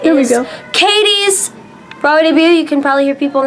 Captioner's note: people cheering faintly